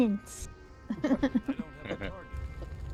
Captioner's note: laughing